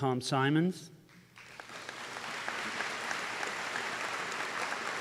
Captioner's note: applause